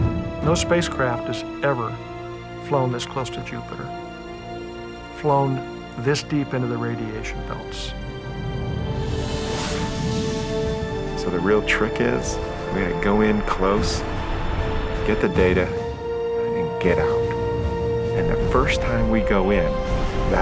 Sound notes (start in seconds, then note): 8.5 whoosh